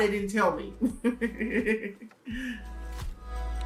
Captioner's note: laughing; background music